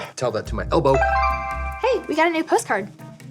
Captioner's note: notification dinging